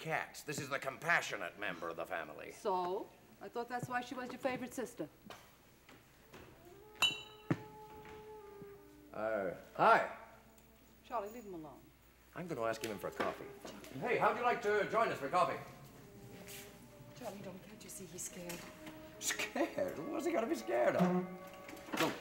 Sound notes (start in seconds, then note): 6.9 bottle clinks